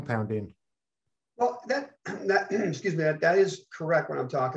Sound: clears throat

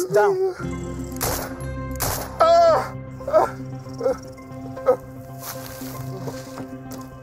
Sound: driver exclaiming; gunshots fired

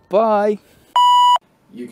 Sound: beep

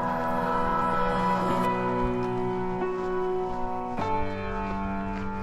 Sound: footsteps crunching

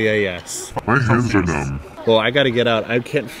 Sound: warped voice

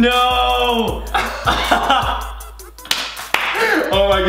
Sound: laughs

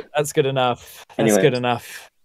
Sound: laughs

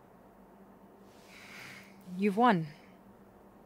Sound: sighs

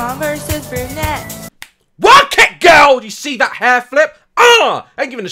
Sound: snap

